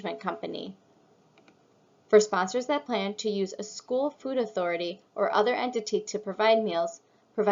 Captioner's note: click